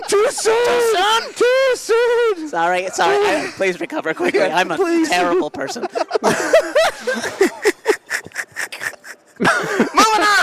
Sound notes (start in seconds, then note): 7.6 laughter